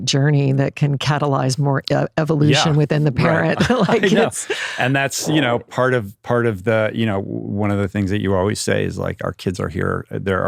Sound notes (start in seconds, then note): 3.2 laughing